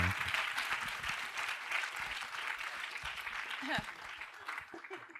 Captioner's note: applause